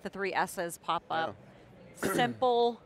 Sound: clears throat

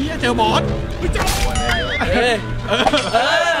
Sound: hit; laughs; cheering

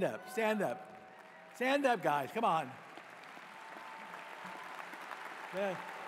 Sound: cheers and applause

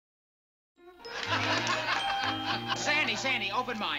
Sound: laughter

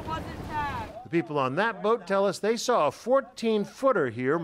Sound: voice-over

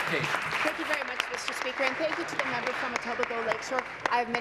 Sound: applause

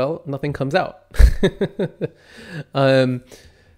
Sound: laughs

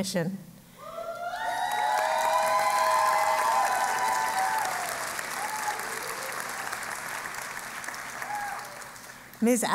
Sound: applause

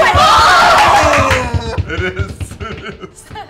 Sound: cheering

